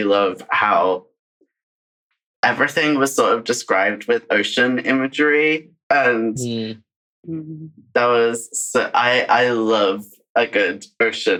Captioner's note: laughs